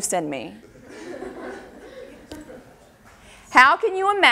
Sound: audience laughter

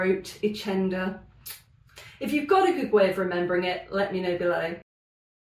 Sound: sucks teeth

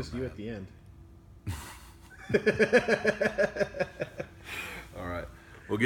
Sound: laughter

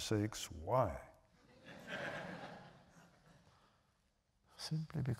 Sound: laughter

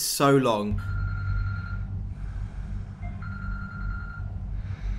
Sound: alarm beeping

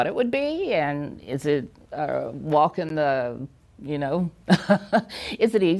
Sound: chuckles

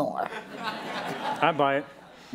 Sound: laughter

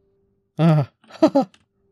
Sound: relived sigh

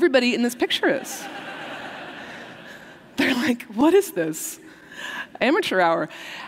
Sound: laughter

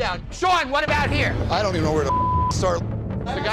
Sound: beep

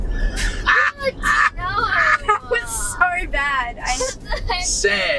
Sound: laughing

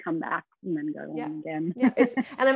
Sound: laughs

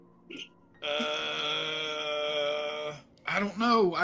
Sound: Silas groaning

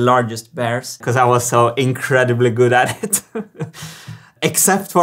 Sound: laughs

